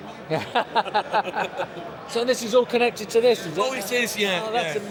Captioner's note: laughing